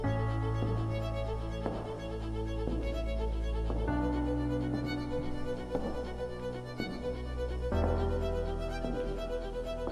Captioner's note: footsteps